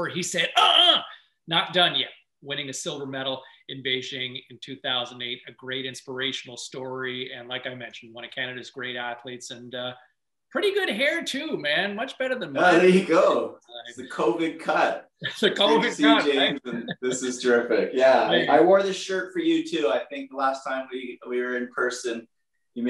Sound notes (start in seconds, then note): 15.1 laughs